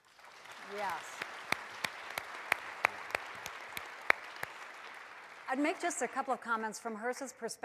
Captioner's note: applause